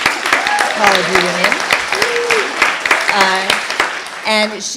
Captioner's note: applause